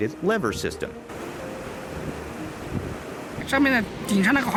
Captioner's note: wind blowing